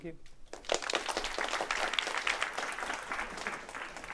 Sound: applause

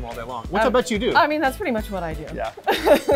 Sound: laughs

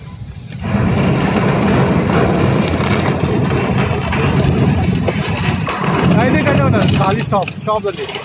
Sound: ship kissing dock sound

